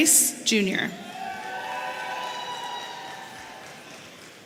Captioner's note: audience cheering